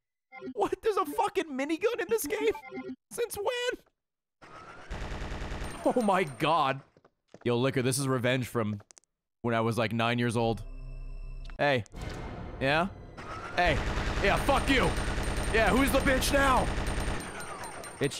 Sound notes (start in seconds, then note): none